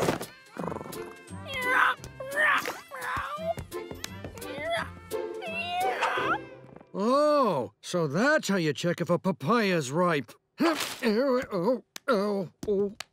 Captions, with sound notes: [purring, meowing] [meowing] Oh, so that's how you check if a papaya is ripe.